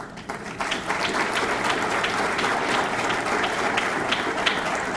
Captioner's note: audience clapping